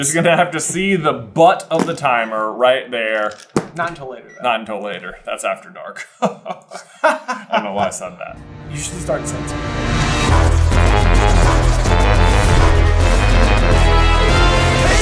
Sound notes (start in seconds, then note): 6.0 both chuckle; 9.9 intro Theme Music